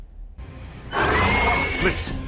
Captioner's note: reeeeeee